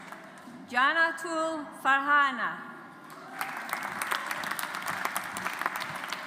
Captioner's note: audience applauds